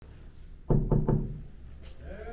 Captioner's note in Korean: 똑똑똑